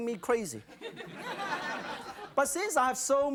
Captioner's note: audience laughs